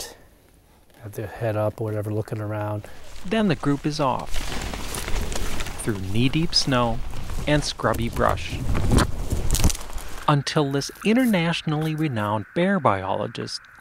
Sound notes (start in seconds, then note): 8.6 sound of twigs breaking